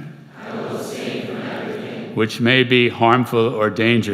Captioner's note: crowd